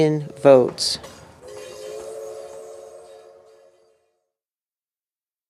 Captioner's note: train whistle